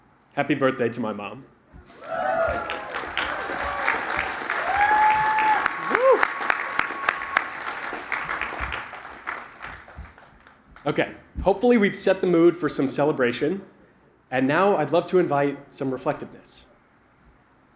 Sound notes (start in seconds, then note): 1.9 cheering, applause